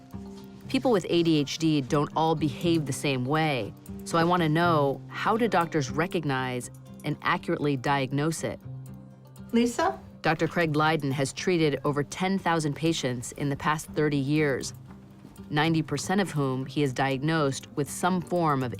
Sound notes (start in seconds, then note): none